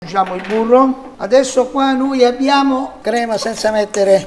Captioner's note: Italian